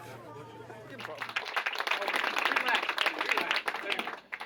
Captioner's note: all applauding